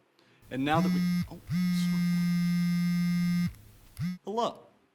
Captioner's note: phone buzzing